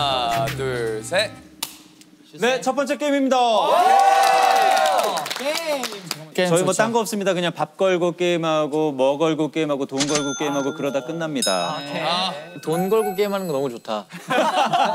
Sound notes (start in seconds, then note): 4.0 shouting like male students